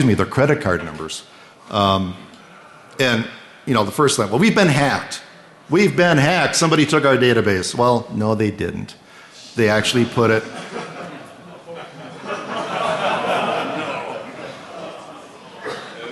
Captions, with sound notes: their credit card numbers, and the first thing is we've been hacked, somebody took our database, no, they didn't, they actually put it ‑ ‑ [ Laughter ] >> [Off mic]. >> They